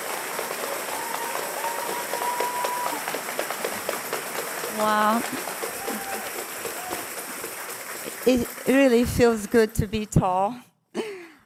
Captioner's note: cheers and applause